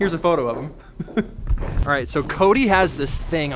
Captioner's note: laughs